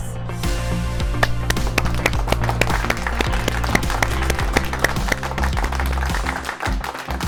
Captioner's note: applause